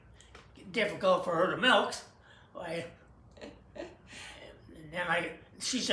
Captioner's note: laughs